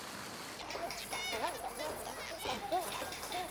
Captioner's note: overlapping chittering